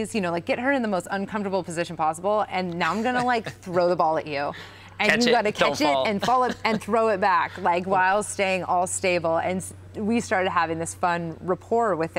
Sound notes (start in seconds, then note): 2.9 laughs